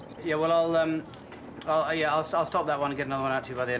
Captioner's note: none